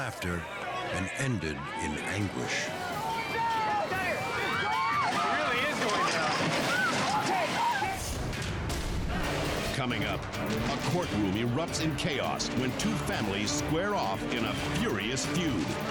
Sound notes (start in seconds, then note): 6.7 party guests screaming; 8.2 dramatic music